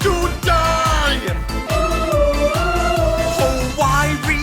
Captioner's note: ooh~